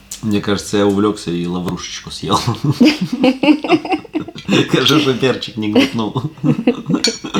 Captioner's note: laughter